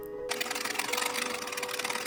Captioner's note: sewing machine quietly running